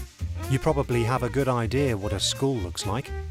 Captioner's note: voiceover